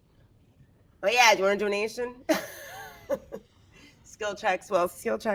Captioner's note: laughs